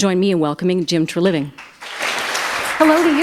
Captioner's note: applause